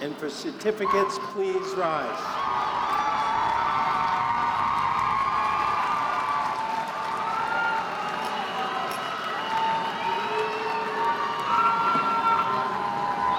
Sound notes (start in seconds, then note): 2.7 audience cheering